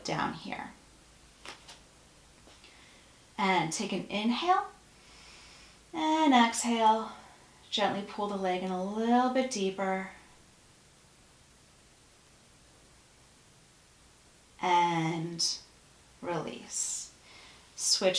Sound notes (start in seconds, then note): 4.9 breath